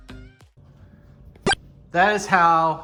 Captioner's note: kick